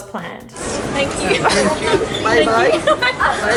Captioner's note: laughing